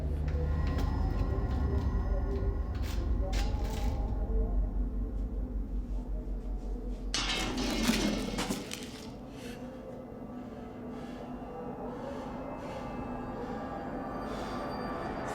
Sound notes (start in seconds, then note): 7.1 metal rattling; 7.3 eerie music